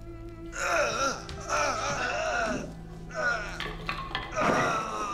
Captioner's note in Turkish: İnleme sesi